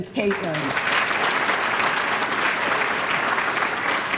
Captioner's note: applause